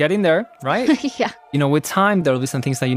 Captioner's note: laughs